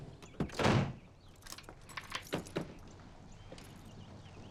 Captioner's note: lock clicks